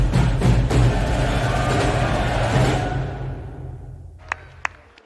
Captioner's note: audience cheering